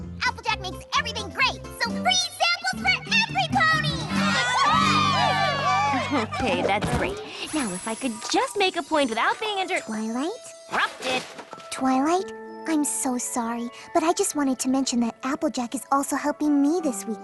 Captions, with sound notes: Applejack makes everything great, So free samples for everypony! [ All cheering ] Okay, that's great. Now, if I could just make a point without being inter-- Twilight? --Rupted. Twilight, I'm so sorry, but I just wanted to mention That Applejack is also helping me this week